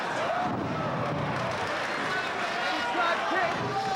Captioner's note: spectators cheering and applauding